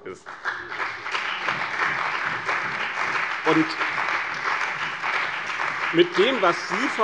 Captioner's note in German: Beifall bei dem BÜNDNIS 90/DIE GRÜNEN und der CDU